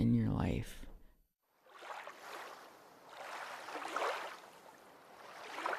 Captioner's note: waves softly lapping